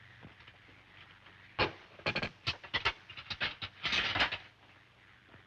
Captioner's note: utensils clatter